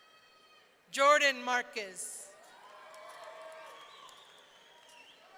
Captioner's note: audience cheering